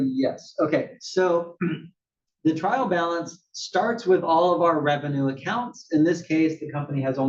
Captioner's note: cough